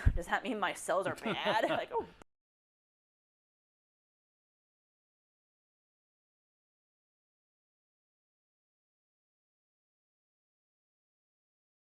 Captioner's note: laugh